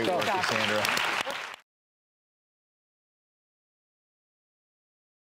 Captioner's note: audience applause